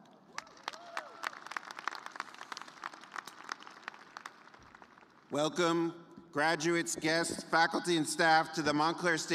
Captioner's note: cheers and applause